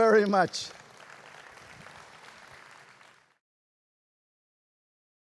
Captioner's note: applause